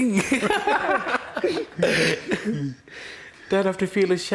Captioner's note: laughter